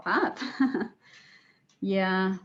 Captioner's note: laughs